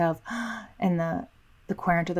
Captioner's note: gasping